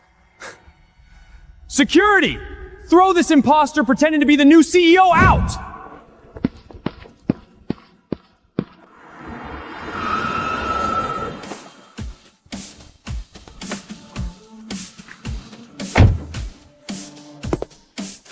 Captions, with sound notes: Security! Throw this imposter pretending to be the new CEO out! [scream]